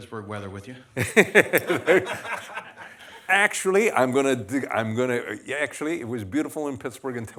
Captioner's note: laughter